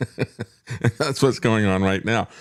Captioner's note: laughs